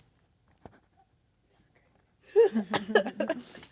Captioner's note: quietly; laughing